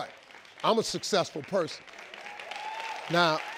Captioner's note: audience clapping